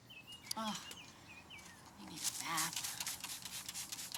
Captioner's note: groans; water spritzing